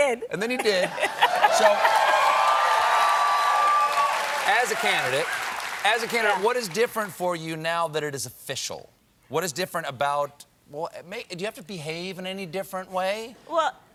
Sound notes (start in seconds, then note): 1.0 cheers and applause